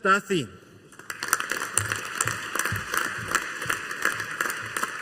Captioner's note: audience applauding